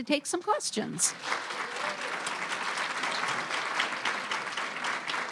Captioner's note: audience applauding